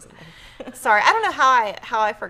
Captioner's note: laughs